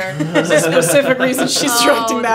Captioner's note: laughing